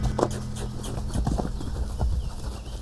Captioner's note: squeaky kisses